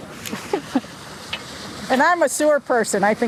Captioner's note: laughs